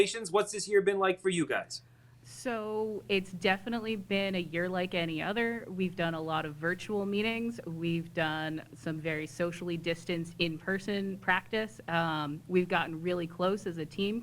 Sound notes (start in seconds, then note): none